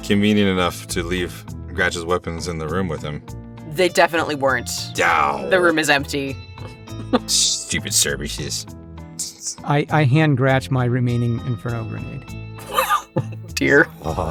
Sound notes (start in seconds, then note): 4.9 GRATCH scoffs; 12.6 chuckles